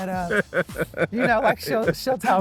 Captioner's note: laughs